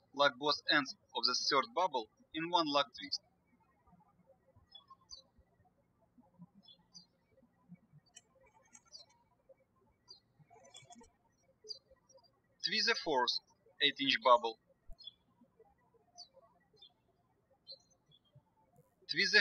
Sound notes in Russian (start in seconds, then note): 0.0 птички щебечут; 4.7 птички щебечут; 15.7 птички щебечут